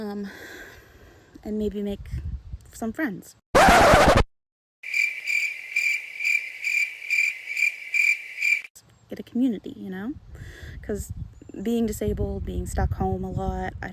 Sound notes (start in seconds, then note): 3.5 sound Effect - Record Scratch; 4.8 sound Effect - Crickets